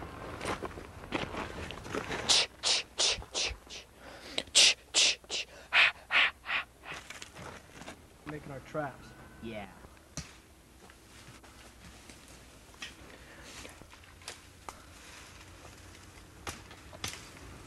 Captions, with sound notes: (tch tch tch tch) (tch tch tch ha ha ha) Let’s make our traps. Yeah.